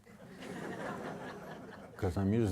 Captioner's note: audience laughing